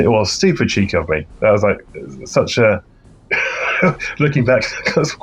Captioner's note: laughs